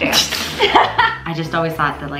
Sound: laughs

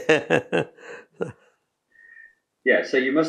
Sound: laughs

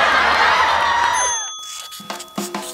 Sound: studio audience laughter; bell rings; jazzy music

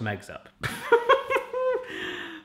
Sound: laughs

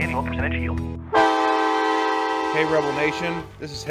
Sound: horn blaring

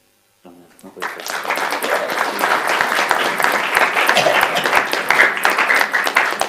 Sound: applauding

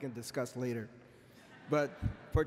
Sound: laughter

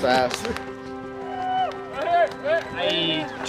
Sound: crowd cheers

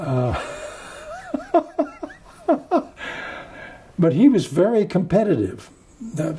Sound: laughs

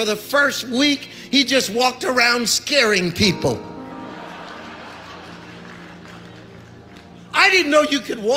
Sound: audience laughs and applauds

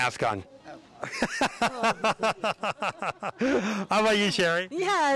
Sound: laughing

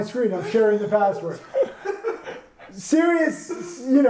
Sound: laughs

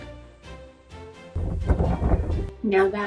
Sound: stiff fabric flapping

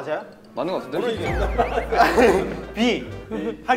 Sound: kekeke

